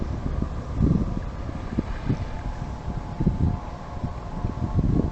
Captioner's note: water splashes